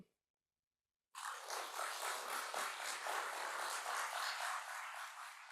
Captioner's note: applause